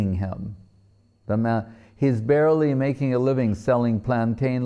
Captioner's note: none